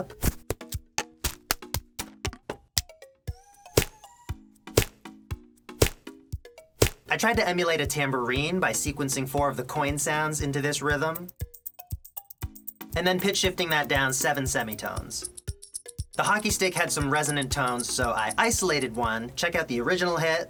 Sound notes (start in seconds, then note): 11.2 loonie and toonie sounds